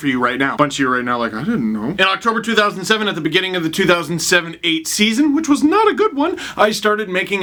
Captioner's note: high-pitched voice